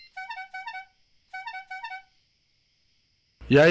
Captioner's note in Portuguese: ringtone dazamiga